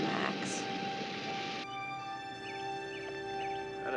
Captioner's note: birds chirping